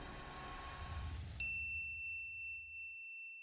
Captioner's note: bell ringing